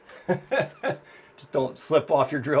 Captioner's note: laughs